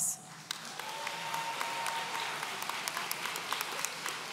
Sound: audience applauds

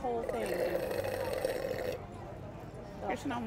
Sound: slurping

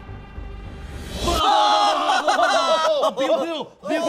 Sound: all laugh

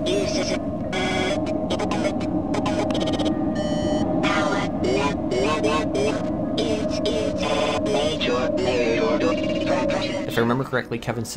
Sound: garbled text-to-speech system

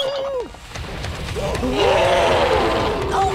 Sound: whistling; growling; groaning

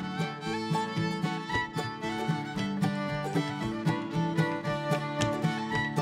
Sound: shoes tapping rhythmically

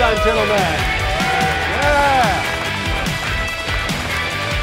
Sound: cheers and applause

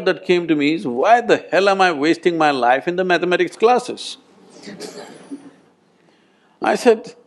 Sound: laughter

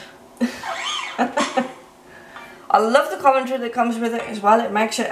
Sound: laughs

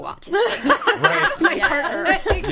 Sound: all laughing

